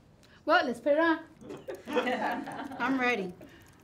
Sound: everyone laughing

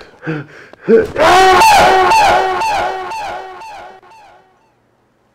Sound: Akoda screaming

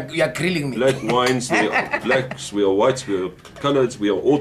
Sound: laughter

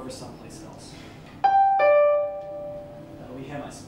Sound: doorbell

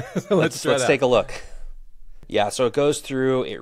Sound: laughs

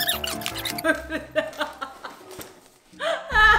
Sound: fast piano music; laughs

